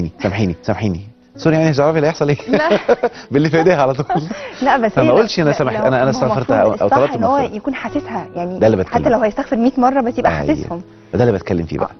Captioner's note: laughs!